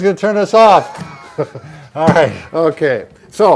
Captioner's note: both laugh